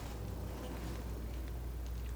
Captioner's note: scratching